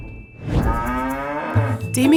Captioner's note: mooing Cow